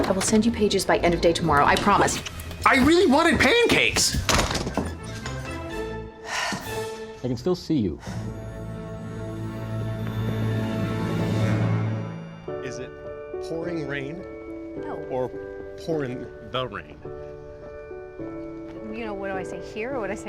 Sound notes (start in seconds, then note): 3.7 slams door shut; 6.2 sighs